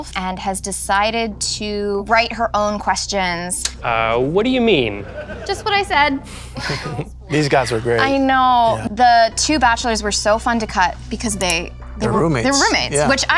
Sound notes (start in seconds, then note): 4.9 audience members laughing; 6.3 chuckling